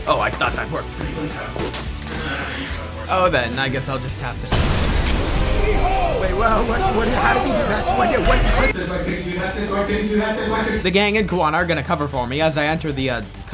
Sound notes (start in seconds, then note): 6.4 soma's concerned mumbling